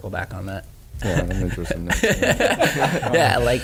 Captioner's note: laughing